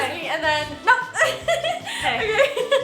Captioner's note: laughs hysterically